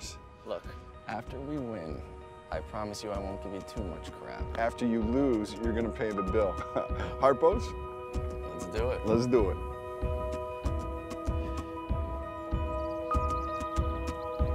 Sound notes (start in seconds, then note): 6.7 laughs; 10.3 hopeful and pleasant rock music